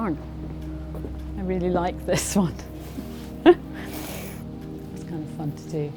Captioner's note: chuckles